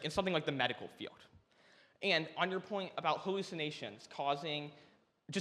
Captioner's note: none